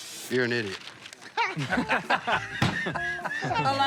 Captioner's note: laughter